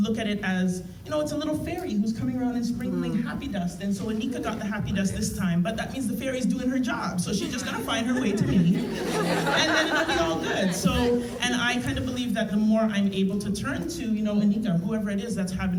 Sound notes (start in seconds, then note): 7.3 laughter